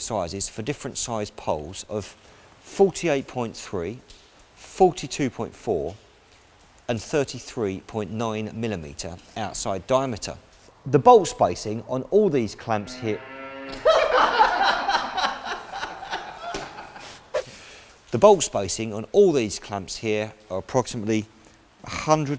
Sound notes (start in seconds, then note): 12.7 cow moo's in the background